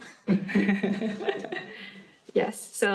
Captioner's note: laughing